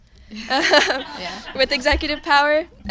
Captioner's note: audience laughing